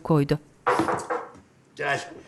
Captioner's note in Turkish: Kapı tıklama sesi